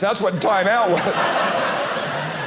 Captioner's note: audience laughing